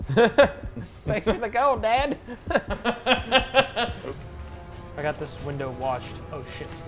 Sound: laugh

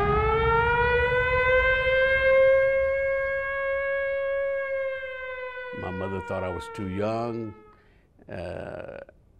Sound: battle Sounds

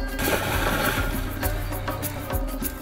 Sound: loud splash

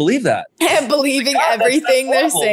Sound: laughs

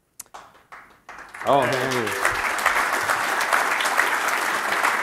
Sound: applause

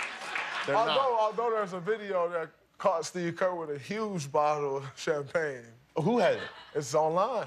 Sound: laughter

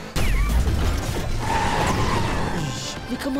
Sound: tires screeching

